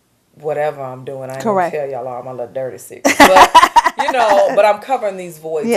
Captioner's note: laughter